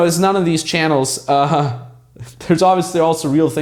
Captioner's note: laughter